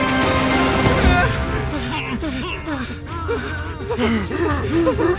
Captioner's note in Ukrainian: Фуууууууууух